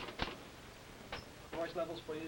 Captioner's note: typewriter clicking